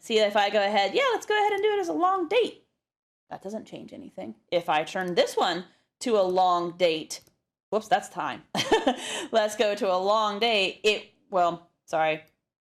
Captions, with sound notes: see if I go ahead, yeah, let's go ahead and do it as a long date. That doesn't change anything. If I turned this one to a long date, whoops that's time. [LAUGH] Let's go to a long date. It, well, sorry.